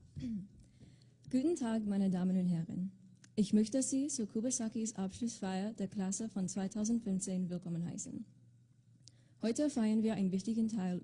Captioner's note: speaking in German